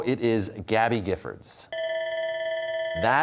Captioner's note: bell ringing